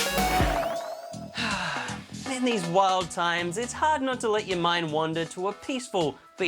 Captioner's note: sighs